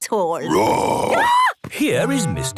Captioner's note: roar, scream